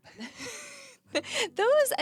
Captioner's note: laughing